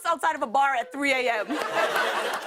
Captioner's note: laughter